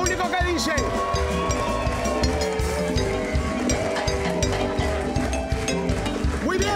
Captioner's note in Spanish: Aplausos